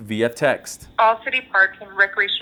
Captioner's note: automated voice